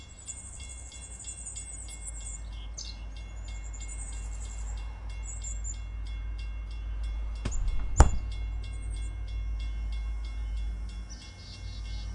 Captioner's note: bell jingles; train sound from afar; birds chirping